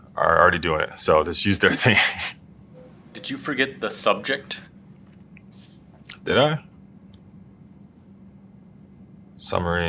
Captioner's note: laugh